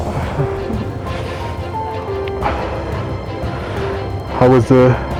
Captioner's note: bright music continues; heavy breathing